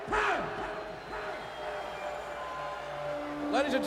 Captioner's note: crowd booing